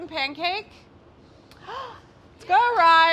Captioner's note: excited gasp